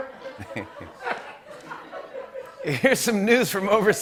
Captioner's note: laughter; chuckles